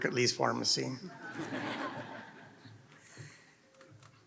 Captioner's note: laughter